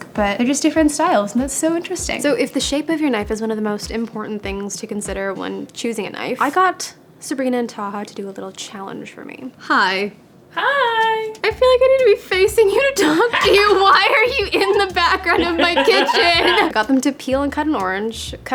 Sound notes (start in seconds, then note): 13.1 laughing; 16.0 everyone laughing